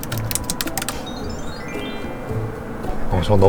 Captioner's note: bling bling